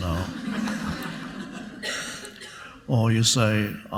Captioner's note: audience laughs